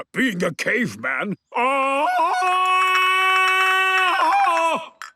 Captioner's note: Tarzan call